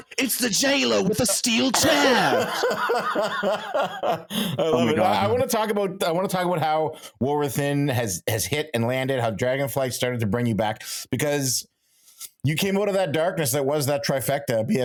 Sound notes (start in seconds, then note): 4.2 laughing